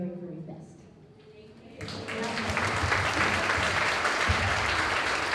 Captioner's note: applause